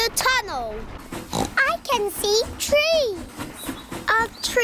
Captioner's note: oinks